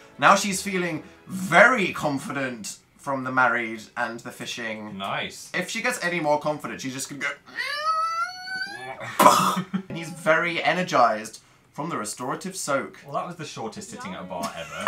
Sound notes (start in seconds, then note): 7.2 squeals